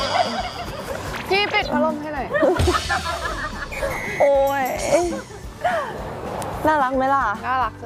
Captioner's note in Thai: เสียงหัวเราะ